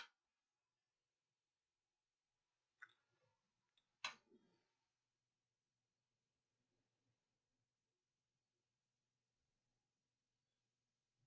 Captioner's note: silence